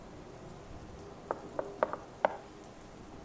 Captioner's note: knocking